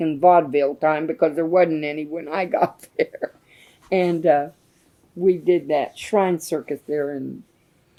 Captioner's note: laughs